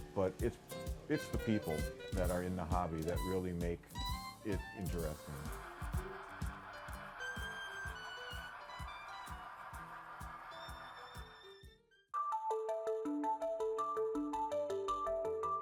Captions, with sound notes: but it's the people that are in the hobby that really make it interesting. (train whirring) (calm music)